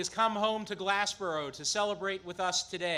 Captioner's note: applause